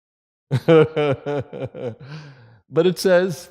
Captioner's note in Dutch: Gelach